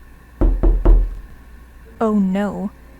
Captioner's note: knocking